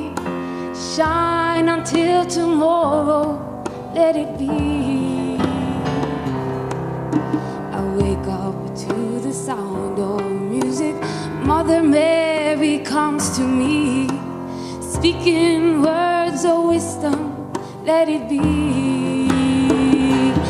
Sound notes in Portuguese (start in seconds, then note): none